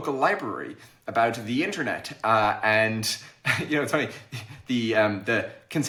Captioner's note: chuckles